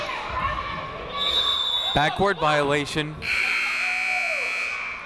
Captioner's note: whistle; buzzer